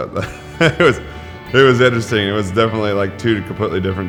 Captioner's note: laughs